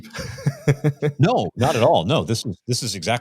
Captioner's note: chuckling